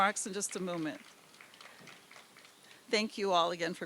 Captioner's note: applause